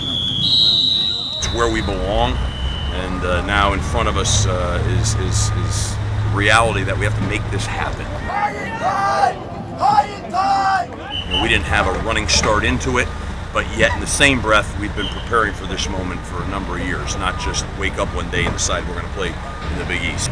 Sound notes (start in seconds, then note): 0.0 whistle blows; 10.4 coach yelling